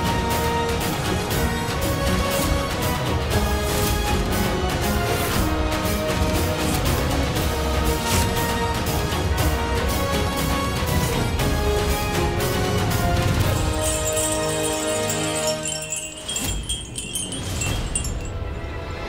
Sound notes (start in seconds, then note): 15.4 glass tinkling